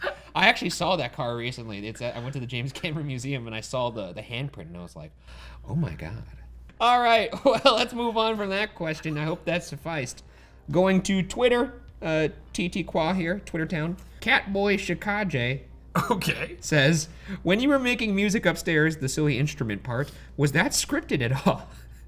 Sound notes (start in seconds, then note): 0.0 laughs; 16.6 laughs